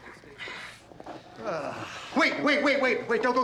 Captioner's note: groaning